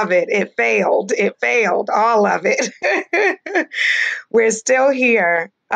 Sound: laughs

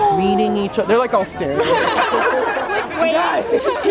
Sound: laughter

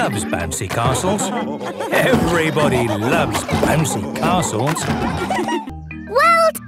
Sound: laughter

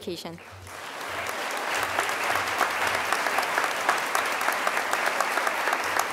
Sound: crowd applause

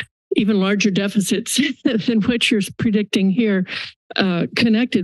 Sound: laugh

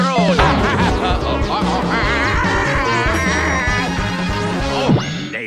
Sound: laughs, then screams

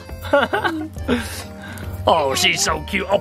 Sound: laughs

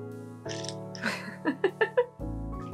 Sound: laughter

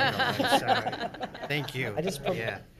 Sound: people laughing

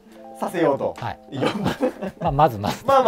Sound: laughing

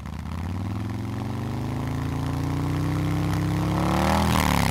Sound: motorcycle engine roaring

